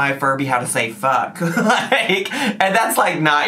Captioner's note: laughs